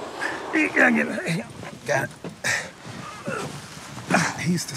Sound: grunting

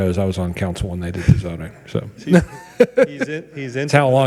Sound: laughs

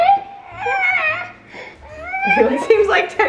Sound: starts fussing

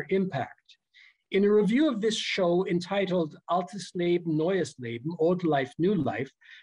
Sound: german

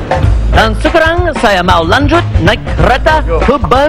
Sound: speaking indonesian

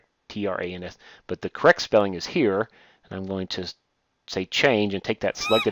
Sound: birds squawking

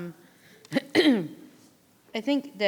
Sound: clears her throat

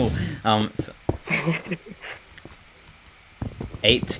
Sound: laughs

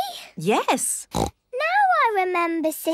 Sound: snorts

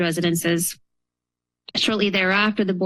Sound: pause

